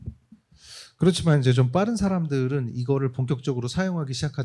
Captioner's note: speaking korean